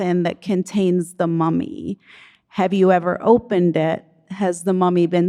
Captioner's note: none